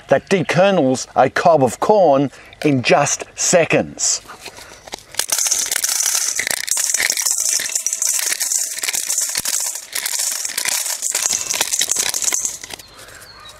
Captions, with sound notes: that de-kernels a cob of corn in just seconds. (rapid tinkling)